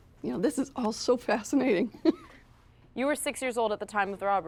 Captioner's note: chuckling